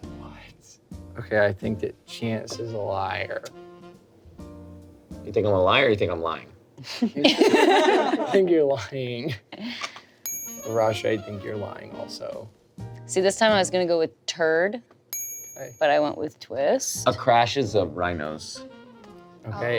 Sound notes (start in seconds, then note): 7.2 everyone laughs